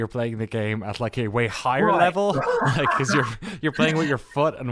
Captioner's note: laughs